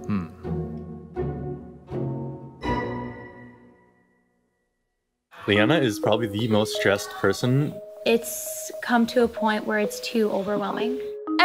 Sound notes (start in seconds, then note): 2.4 swoosh sound